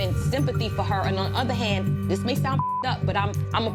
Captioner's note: beep